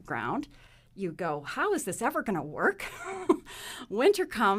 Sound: laughs

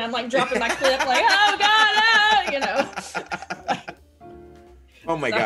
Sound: laugh

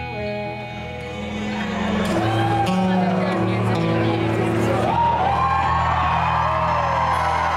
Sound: crowd cheering

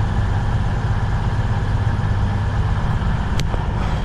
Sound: train humming

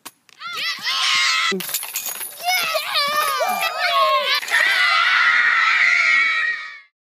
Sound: kids yelling and screaming

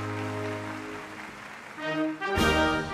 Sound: crowd applauding; triumphant music

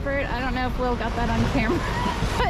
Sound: laughs

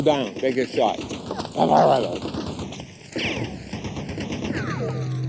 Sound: gunfire rattling

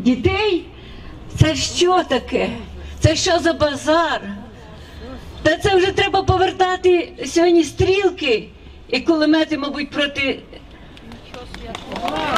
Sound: audience applauds

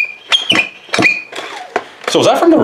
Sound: squeaking

